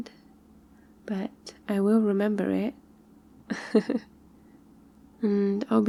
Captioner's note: laughs